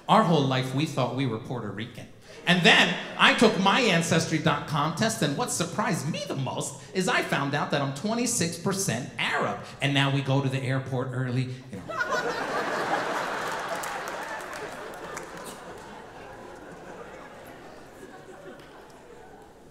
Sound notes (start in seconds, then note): 11.7 audience laughing